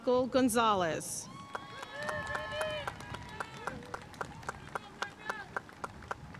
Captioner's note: audience cheering and applauding